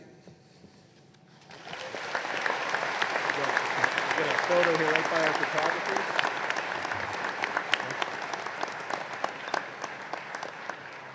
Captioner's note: applause